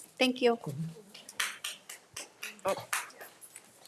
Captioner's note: audience applauding